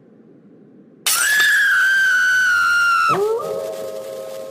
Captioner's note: scream